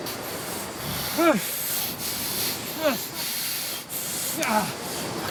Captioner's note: Addison grunting